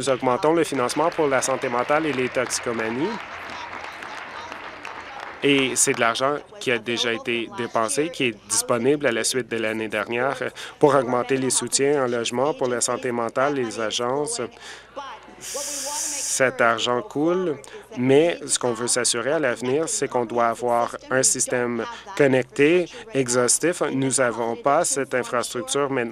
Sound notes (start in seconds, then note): 8.3 applause